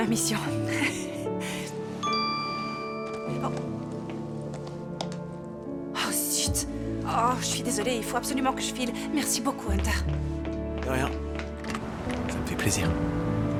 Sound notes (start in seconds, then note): 0.2 chuckling; 2.0 phone chimes